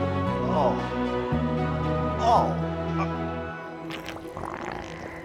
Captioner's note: Walter groans; eerie music